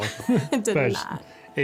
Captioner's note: giggling